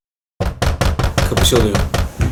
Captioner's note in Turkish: Kapı tık tıklama sesi